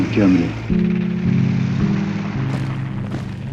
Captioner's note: gentle somber music; tank engines rumbling; footsteps marching